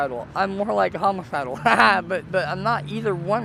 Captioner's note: laughs